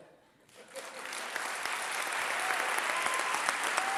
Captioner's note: applause